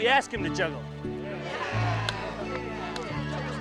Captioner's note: crowd